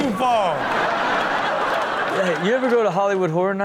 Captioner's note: audience laughs